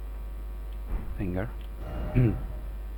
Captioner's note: clears throat